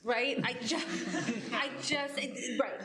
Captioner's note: laughing